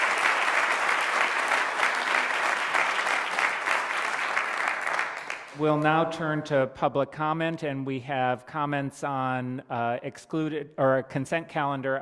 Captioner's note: applause